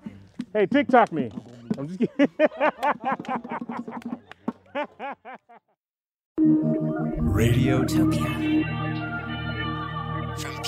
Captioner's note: laughing